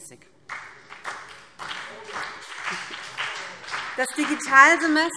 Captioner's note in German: Beifall BÜNDNIS 90/DIE GRÜNEN und vereinzelt CDU